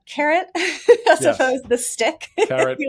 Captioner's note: laughs